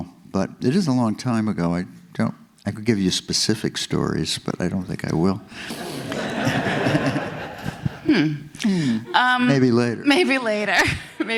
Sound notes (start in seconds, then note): 5.6 audience laughs